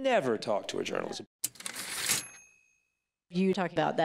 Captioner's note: typewriter ding